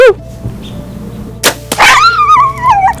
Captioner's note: sound of bowshot